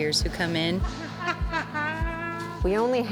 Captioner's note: laughs